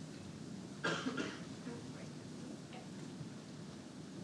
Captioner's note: coughing